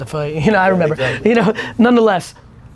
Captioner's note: laughing